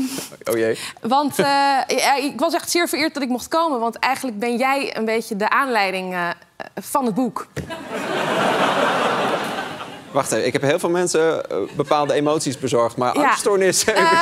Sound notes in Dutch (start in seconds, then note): 7.7 gelach